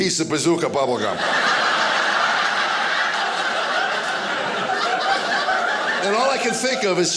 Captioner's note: audience laughing